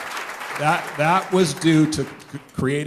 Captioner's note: applause